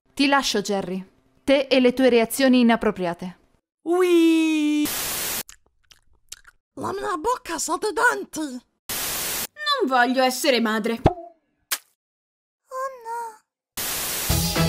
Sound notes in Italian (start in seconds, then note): 5.4 rumori con la bocca, quelli quando non hai saliva che fanno molto schifo; 11.7 pop; 11.7 splat